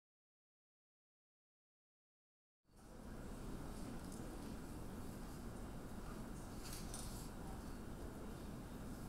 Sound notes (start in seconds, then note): 4.1 audience chattering